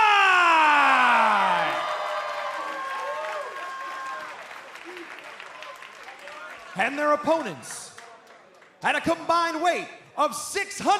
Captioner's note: cheers and applause